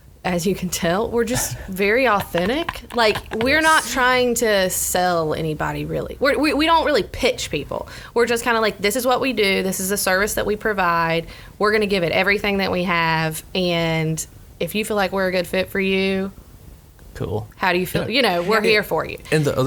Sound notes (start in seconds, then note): 2.7 laughs